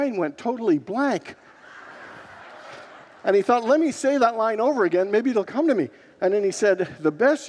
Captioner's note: congregants laugh